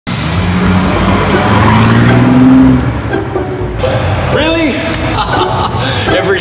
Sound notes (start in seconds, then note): 0.0 loud engines roaring; 5.0 laughing